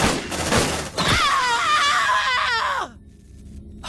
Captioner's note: pained Scream